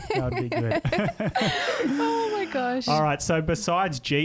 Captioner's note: laughing together